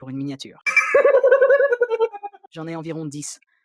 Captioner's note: laughs